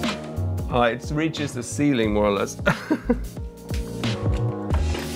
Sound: laughing

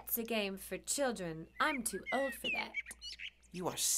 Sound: birds chirping

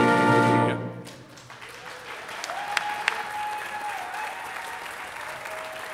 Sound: audience applauding

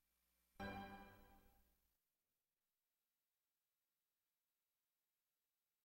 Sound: silence

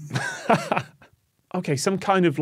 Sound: laughs

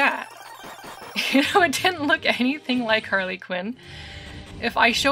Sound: laughing

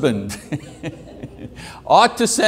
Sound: chuckles; audience member laughing

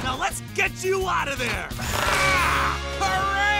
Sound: grunting

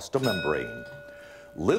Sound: ding

